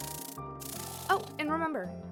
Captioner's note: wings fluttering